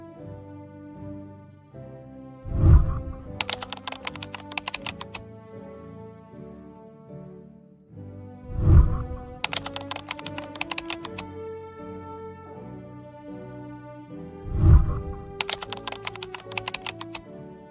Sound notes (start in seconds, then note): 2.4 whooshing sound; 2.6 keyboard clicking; 8.5 whooshing sound; 8.7 keyboard clicking; 14.4 whooshing sound; 14.6 keyboard clicking